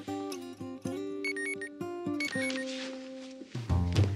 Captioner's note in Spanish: bip de la computadora